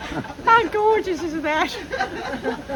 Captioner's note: laughter